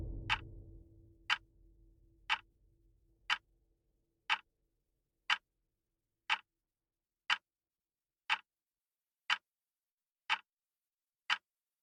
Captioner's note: ticking stops in an epic way